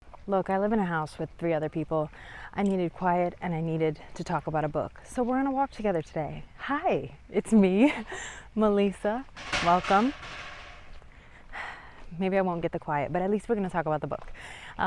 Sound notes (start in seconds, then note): 9.3 ladder clatters in background